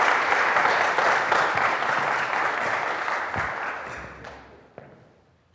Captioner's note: audience continue clapping